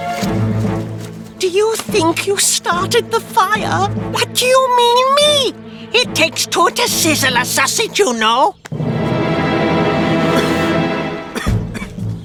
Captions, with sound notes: [ Whispering ] DO YOU THINK YOU STARTED THE FIRE? [ Whispering ] WHAT DO YOU MEAN ME? IT TAKES TWO TO MAKE A HOT DOG HOT YOU KNOW! [ Elvis Coughing ]